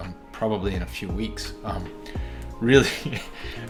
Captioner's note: chuckling